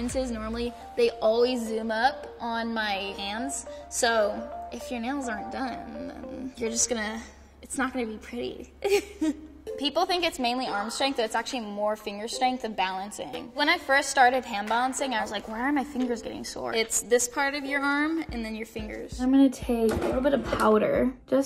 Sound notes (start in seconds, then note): 8.9 laughs